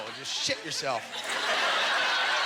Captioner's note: audience laughter